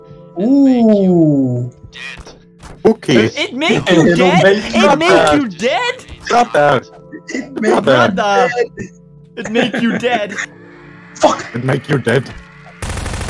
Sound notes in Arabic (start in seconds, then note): 3.7 يضحك